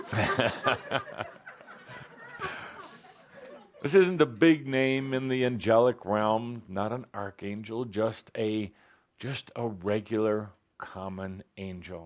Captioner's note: laughter